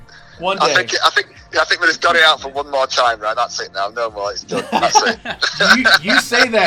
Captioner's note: laughs